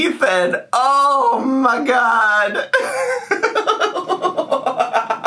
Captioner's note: laughing